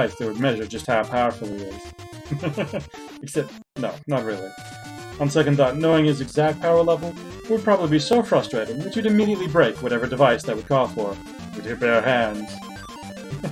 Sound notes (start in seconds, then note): 2.2 chuckles; 13.2 chuckles